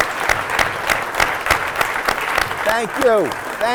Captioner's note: applause